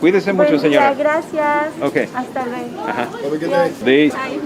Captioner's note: in Spanish